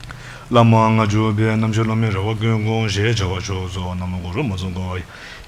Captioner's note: speaks in foreign language